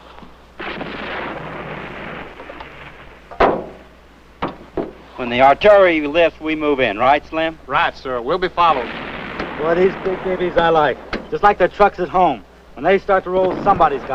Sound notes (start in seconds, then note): 2.1 bomb explodes; 6.2 guns fire